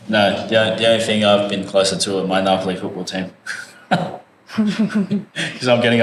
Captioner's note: laugh